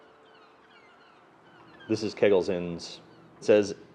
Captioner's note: birds cawing